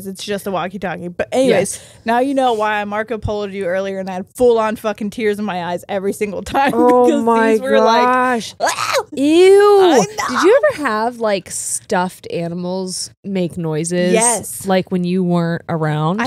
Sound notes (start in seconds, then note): 8.6 screams